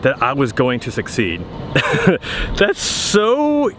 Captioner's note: laughing